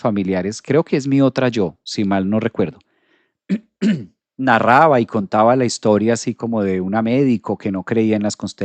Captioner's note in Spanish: carraspeo